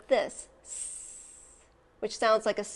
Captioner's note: hisses